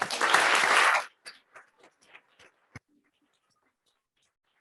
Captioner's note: audience applauding